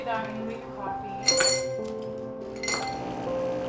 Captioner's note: clanging; soft piano music